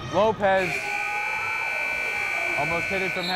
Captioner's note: timer buzzes